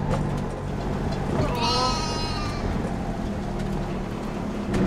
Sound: sheep bleating

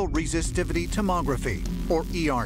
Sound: electricity crackling

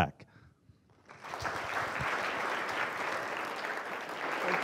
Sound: applause

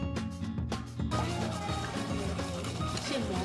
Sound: grinding wasabi

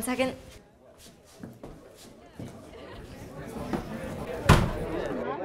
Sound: crowd chatters as the door closes

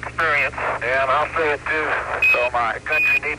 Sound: beeping

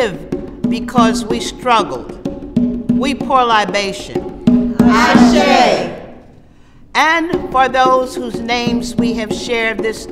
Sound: voices respond

